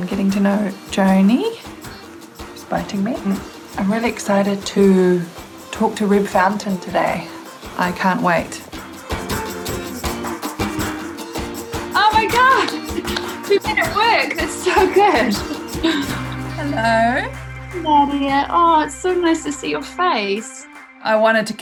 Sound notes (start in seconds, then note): 13.1 clapping